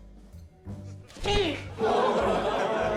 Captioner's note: grunts; laughter